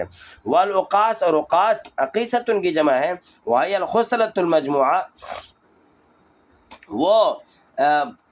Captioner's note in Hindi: नाक से की जाने वाली आवाज़